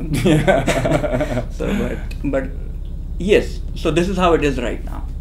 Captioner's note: laughing